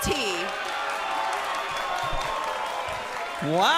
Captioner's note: crowd cheering